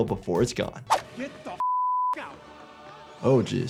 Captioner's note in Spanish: pitido